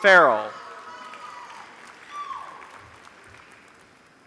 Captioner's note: applause